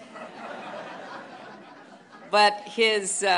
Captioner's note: laughter